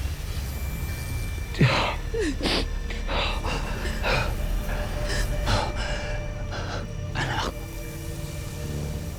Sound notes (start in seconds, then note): 0.1 suspicious music playing; 1.5 groaning; 1.6 sobbing